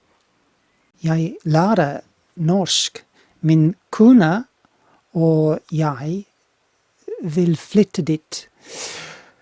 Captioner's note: speaking Norwegian